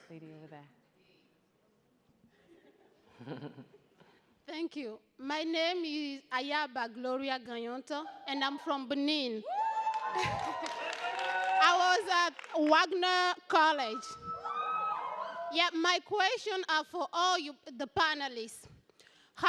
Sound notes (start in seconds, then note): 2.3 light chuckling; 9.5 audience cheers